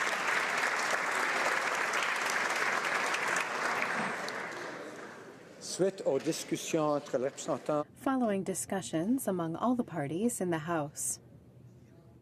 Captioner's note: applause